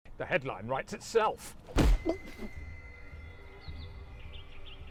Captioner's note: leg thuds